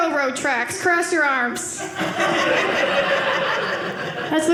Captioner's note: audience laughing